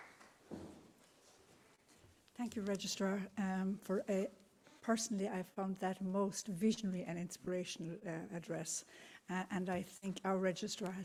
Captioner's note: applause